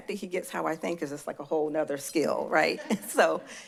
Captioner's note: laugh